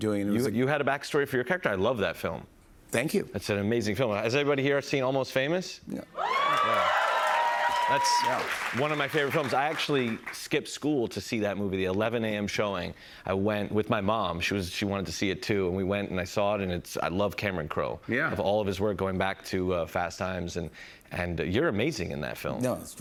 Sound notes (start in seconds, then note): 6.1 cheers and applause